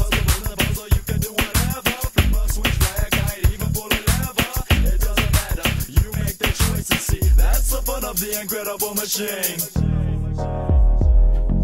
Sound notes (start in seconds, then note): none